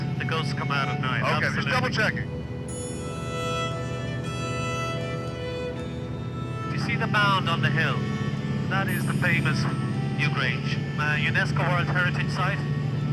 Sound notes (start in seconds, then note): none